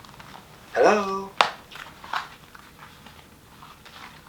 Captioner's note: shoes clacking